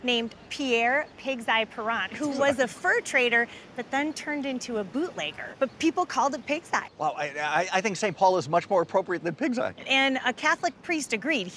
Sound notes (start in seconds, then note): 2.1 chuckles